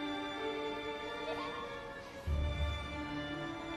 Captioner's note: children playing